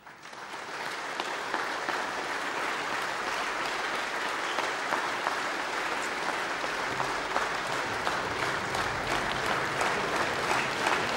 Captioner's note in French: Applaudissements